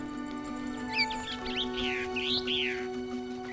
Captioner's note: birds chirping